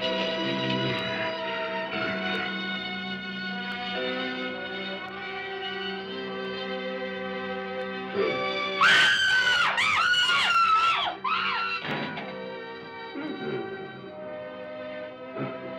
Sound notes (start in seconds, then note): 8.7 screams